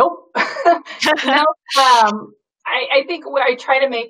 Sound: both laugh

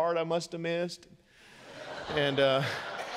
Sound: congregation laughing

